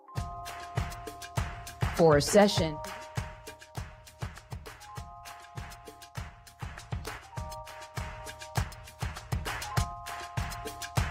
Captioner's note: applause